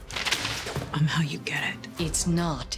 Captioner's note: papers slamming